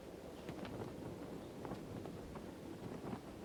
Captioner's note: wind